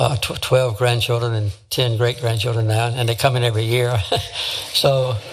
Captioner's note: laugh